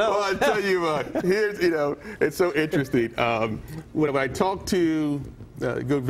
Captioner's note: laughter